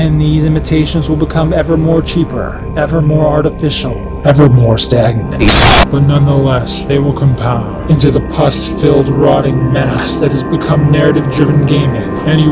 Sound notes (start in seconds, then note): 2.7 distorted; 4.2 very distorted